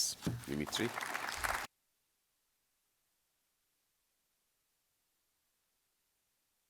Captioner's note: audience applauds